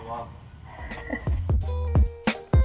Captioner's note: laughing